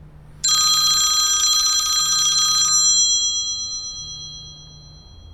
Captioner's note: phone ringing